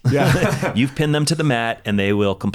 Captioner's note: laughs